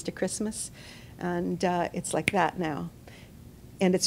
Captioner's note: snaps